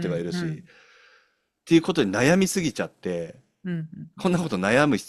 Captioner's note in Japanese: 咳払い